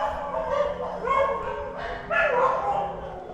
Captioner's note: dogs barking